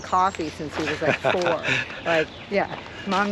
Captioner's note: chuckles